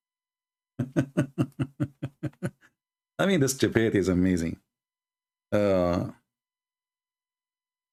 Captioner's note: Ketawa